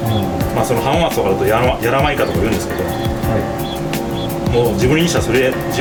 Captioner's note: dialect